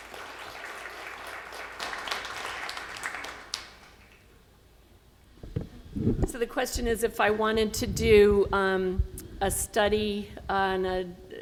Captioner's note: clapping